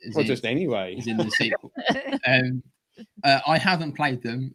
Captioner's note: laughter